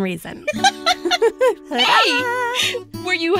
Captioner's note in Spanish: ríe